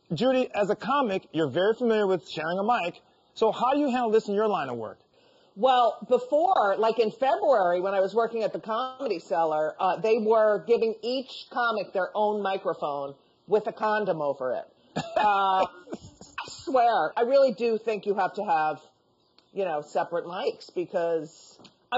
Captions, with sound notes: Judy, as a comic, you're very familiar with sharing a mic, so how do you handle this in your line of work? - Well, before, like in February, when I was working at the Comedy Cellar, they were giving each comic their own microphone with a condom over it. (laughing) I swear, I really do think you have to have, you know, separate mics because,